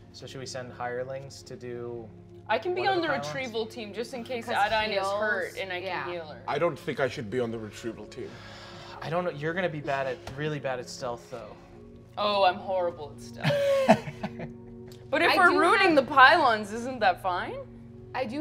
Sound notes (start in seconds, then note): 13.4 laughing